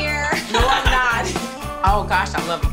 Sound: laughs

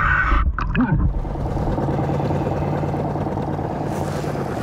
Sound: engine droning

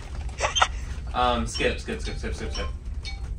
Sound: laughing

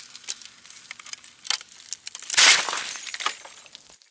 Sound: ice crackling

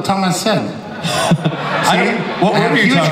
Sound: audience laughs

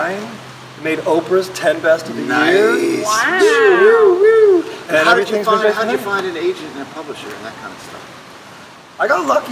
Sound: cheers

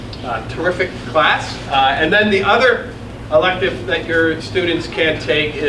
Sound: none

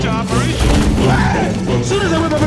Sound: thunder rumbles

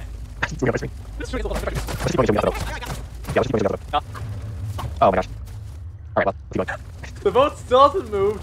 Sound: sped up dialogue

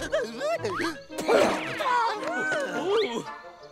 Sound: giggling; grunting

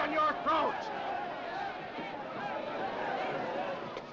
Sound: mob clamoring

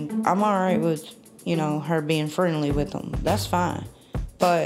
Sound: none

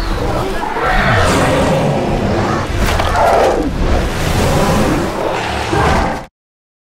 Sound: roaring

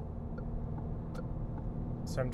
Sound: turn signal clicking

